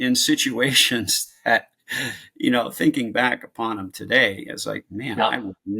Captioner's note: chuckles